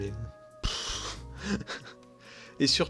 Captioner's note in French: rire honteux